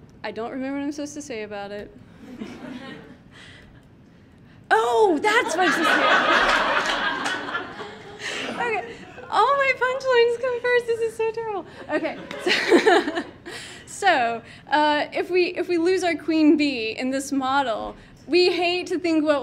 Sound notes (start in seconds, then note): 2.2 audience laughs; 5.3 audience laughing